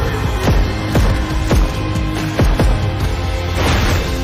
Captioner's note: upbeat music; gun shots; glass breaking sound